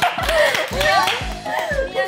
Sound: laughing

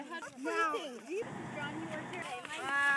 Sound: bus engine

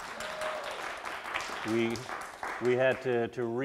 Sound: audience applause

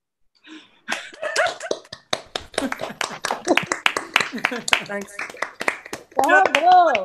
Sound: applause

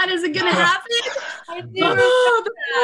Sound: all laugh

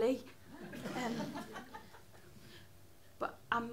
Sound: laughter

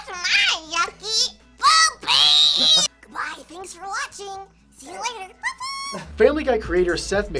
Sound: cartoon voices

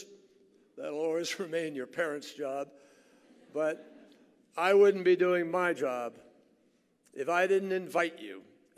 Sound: laughter

